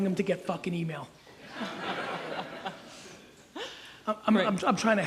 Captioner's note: audience laughs